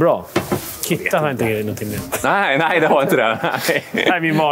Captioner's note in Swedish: skratt